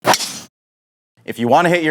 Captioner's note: club striking ball